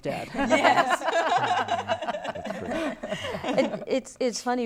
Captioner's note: laughter